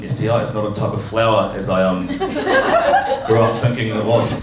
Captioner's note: laughter